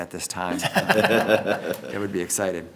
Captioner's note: everyone laughs